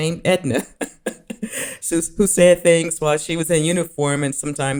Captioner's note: chuckling